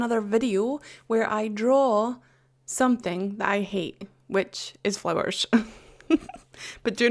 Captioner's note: laughs